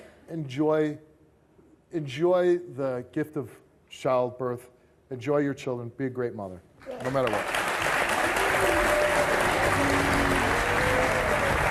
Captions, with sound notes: enjoy the gift of childbirth, enjoy your children, be a great mother. No matter what. (audience applauding)